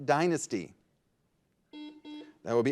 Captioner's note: buzzer buzzes